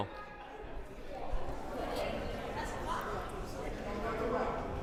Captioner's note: crowd murmuring